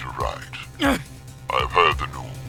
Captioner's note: grunts!